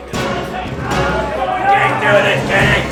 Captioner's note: men clamor